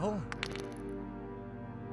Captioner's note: crack